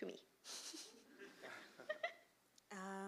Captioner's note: chuckles